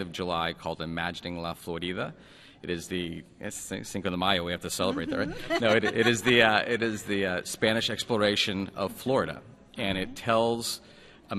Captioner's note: laughter